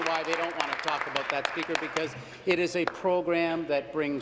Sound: applause

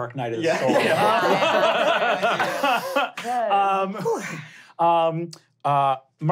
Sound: players laughing

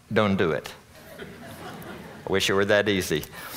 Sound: audience laughing

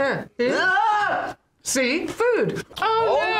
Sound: yells

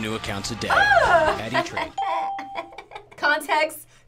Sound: laughs

